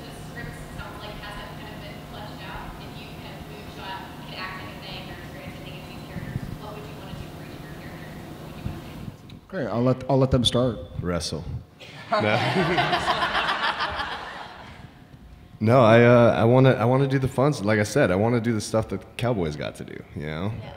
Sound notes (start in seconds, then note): 11.9 audience laughing